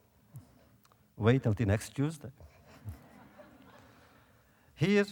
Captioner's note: audience laughter